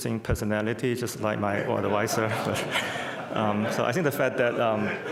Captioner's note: crowd laughs